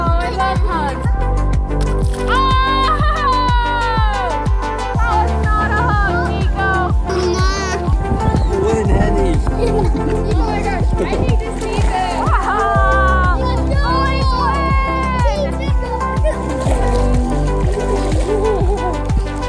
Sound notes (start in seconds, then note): 2.7 laughing